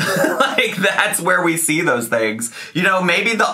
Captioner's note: laughs